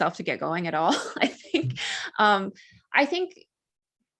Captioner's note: chuckles